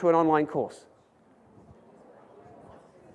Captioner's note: several audience members murmur